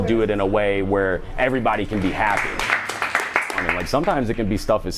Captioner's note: applause